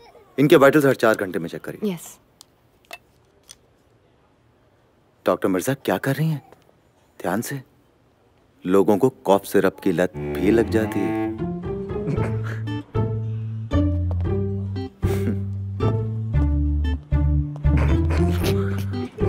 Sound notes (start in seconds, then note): 12.0 Giggles